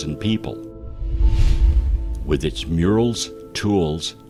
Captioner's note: air whooshing